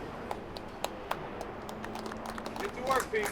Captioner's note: people applauding